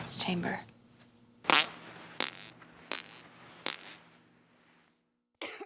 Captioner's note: sounds of flatulence